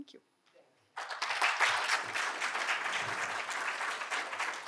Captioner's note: audience applauding